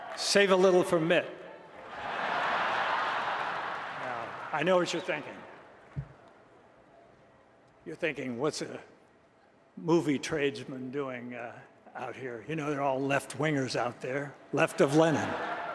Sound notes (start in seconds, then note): 2.0 applause